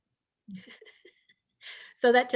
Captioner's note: laughing